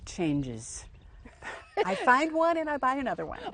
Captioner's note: laughs